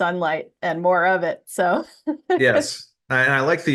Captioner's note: laughs